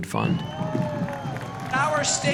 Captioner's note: crowd cheering, drums rolling